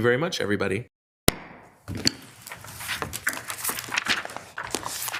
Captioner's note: gavel thuds